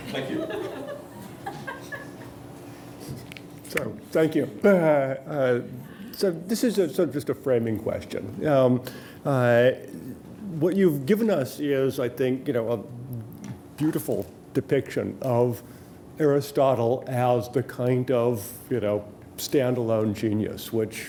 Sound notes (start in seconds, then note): 0.3 voiceover; 4.4 voiceover